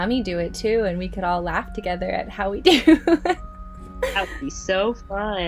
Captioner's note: laughs